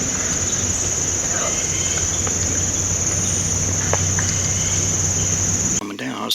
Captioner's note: low, grunting animal call